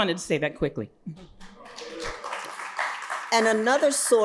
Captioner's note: audience applauding